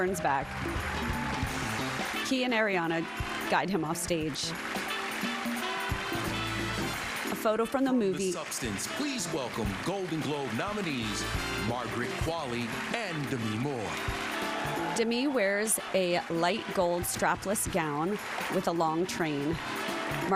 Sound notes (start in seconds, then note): 5.4 applause; 15.4 applause